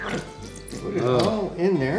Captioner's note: sauce squirting